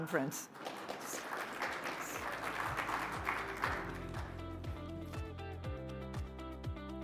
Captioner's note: audience applauding; upbeat music